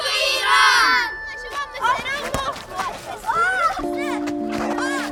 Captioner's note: playful chatter